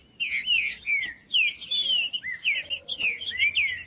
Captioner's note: trinca ferro cantando